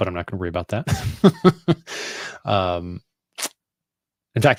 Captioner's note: laughs